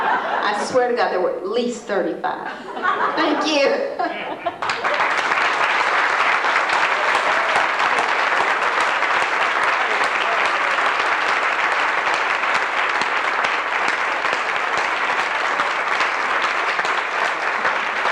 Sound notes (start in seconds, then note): 0.0 laughter; 4.2 applause